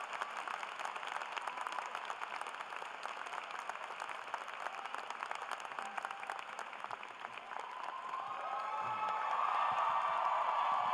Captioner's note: applause